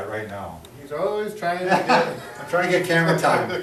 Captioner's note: laughing